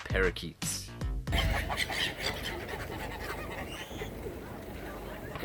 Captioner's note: many birds squawking and chirping and honking